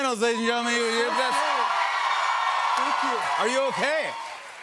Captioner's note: cheers and applause